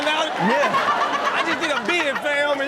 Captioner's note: Chanel laughs